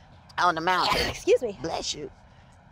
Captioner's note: Soledad sneezing